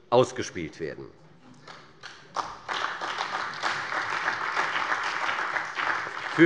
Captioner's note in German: Beifall bei der CDU und dem BÜNDNIS 90/DIE GRÜNEN